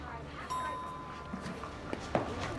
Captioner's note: elevator dings